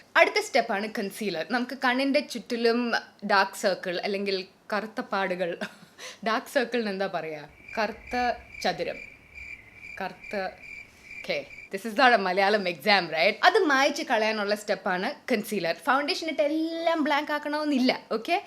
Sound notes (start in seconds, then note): 7.4 cricket sounds